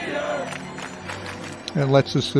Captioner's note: clap clap clapclapclap